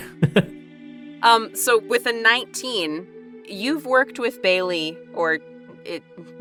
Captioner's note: chuckles